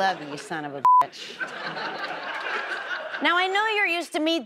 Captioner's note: audience laughs